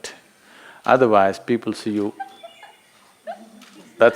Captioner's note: A participant laughs